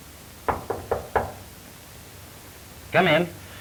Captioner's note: knocking on door